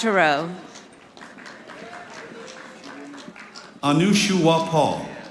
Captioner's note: audience applauding